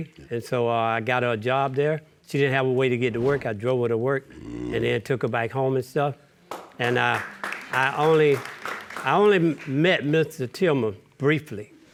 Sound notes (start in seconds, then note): 4.4 groaning; 6.5 audience applauding